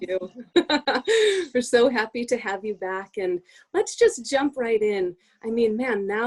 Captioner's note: laughter